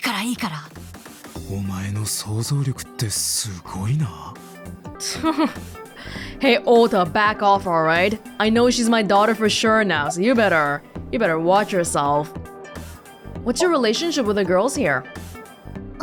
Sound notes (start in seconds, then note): 5.0 chuckles